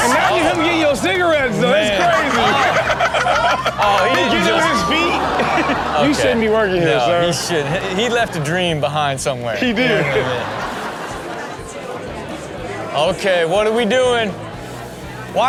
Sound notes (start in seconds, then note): 2.7 Chanel laughing